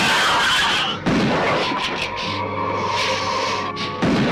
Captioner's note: gun firing